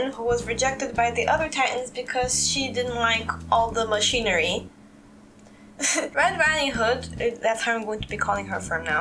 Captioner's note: chuckle